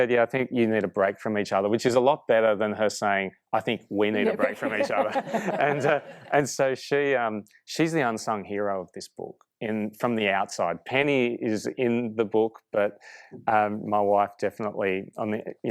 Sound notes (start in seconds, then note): 4.2 laughing